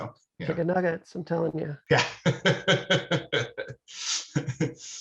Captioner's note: laughing